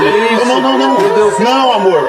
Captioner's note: portuguese dialogue continues